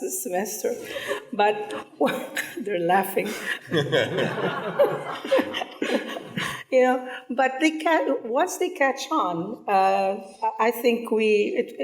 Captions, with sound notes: this semester, but (chuckles) they're laughing. (people laughing) Yeah, but they can, once they catch on, I think we,